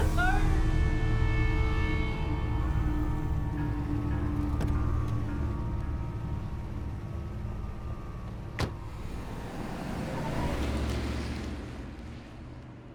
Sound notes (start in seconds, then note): 0.1 eerie music; 8.5 car door thuds; 8.6 car whooshing